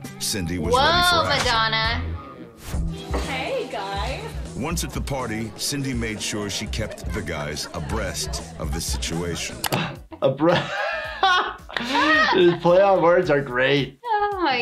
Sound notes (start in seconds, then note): 11.0 laughing